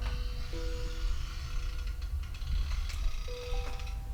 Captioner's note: door hinges creaking